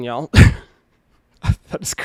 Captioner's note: laughing